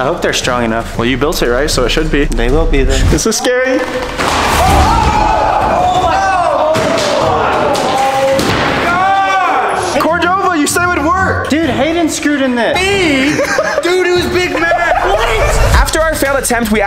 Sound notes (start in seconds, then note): 4.5 screaming; 4.5 wood clattering